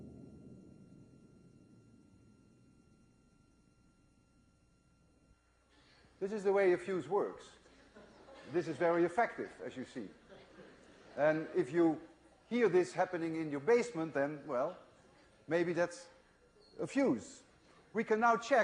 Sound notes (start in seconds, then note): 0.0 bang; 2.9 hum